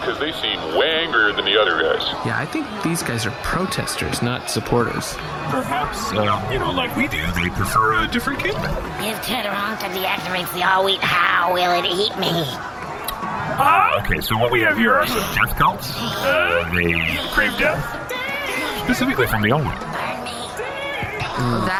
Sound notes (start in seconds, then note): 9.1 screaming; 12.1 a group of angry zealots begins screaming